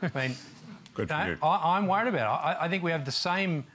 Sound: laughter

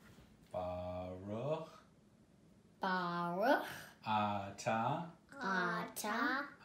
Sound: man and kids reciting in foreign language

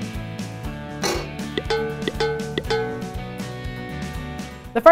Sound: bright instrumental music; metal clanging

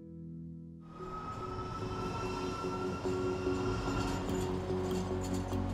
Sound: tram whirring; upbeat music

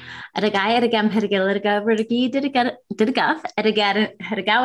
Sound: speaking in Jibberish

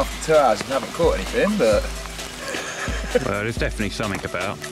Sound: laughs

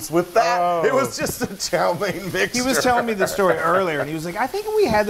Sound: laugh

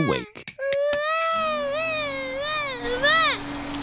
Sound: vacuum cleaner whirring

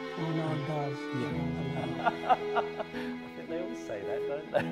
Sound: laughing

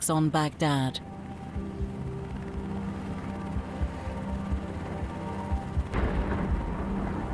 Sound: helicopter whirring; tense music

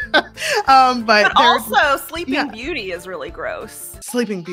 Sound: both laugh

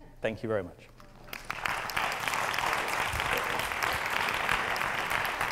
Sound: applause

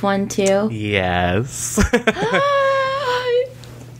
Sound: laughs

